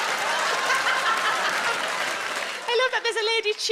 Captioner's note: Sarah laughs